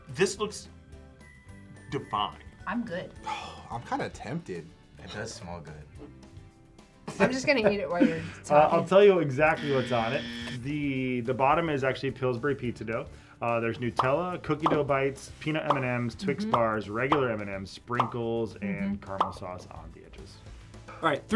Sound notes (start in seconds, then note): 3.2 sighs